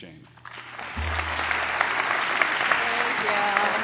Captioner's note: applause